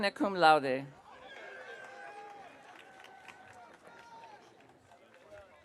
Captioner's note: audience cheering